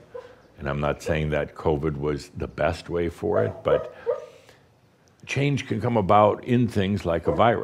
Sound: Belle barks

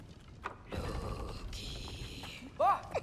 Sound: whispering

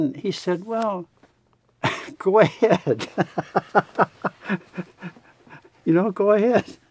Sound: laughs

